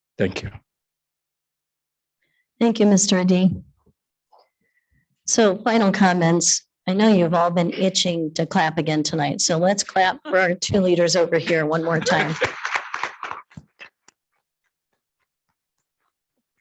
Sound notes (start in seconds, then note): 11.9 attendees clapping